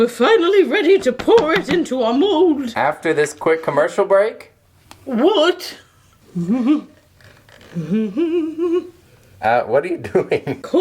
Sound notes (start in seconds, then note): 7.6 humming